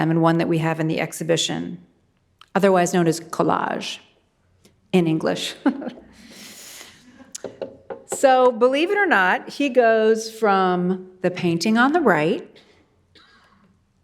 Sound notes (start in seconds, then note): 5.6 chuckles